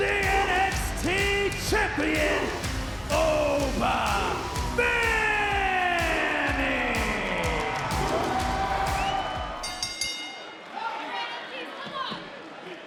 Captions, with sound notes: the NXT champion, Oba Femi. (crowd cheers) (bell dings)